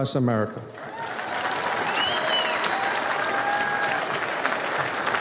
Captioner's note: audience applauds